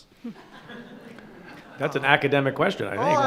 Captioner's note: laughter